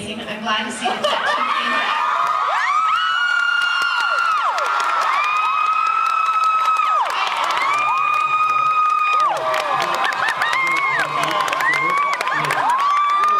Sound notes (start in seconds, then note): 2.9 cheers, applauds; 11.7 cheers